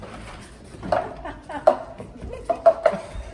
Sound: audience laughing

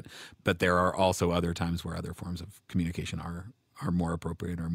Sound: none

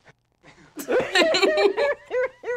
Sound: laughs

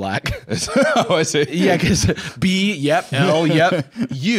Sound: laughing

